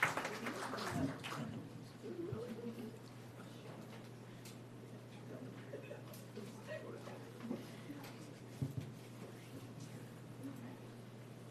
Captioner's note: applause